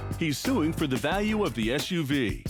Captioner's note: none